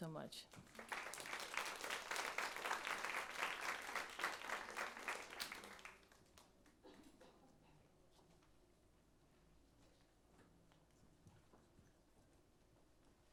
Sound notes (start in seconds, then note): 8.2 applause